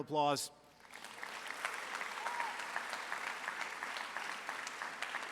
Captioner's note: audience applauds